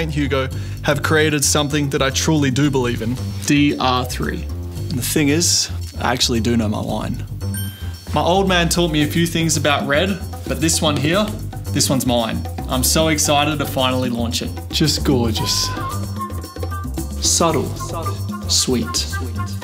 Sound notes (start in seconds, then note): 3.9 soft jazz music; 7.5 bell dinging